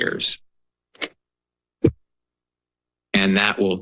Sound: pause

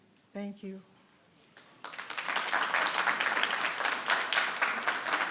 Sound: audience clapping

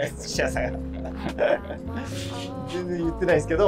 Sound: laughing

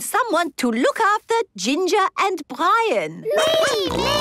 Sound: snorting

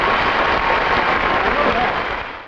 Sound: audience applauding

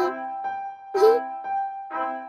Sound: laughing

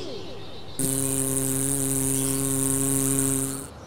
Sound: engine sound

